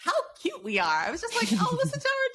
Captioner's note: giggles